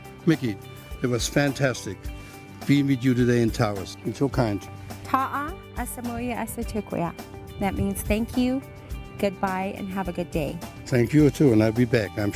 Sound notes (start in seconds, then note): 5.6 SPEAKS IN</b> <b>LANGUAGE OF TAOS PEOPLE